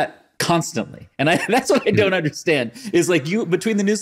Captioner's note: chuckles